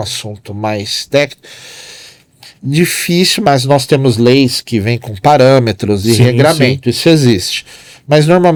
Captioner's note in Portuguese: suspirando